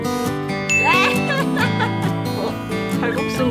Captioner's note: laugh